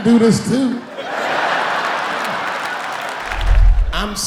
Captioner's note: laughing